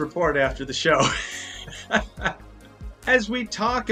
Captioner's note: presenter laughs